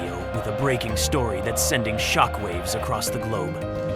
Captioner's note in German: News Intro Music; Die Menge schreit